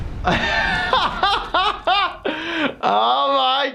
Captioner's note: laughs